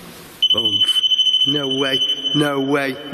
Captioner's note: digital beeping